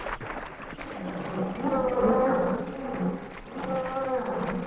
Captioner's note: animals groaning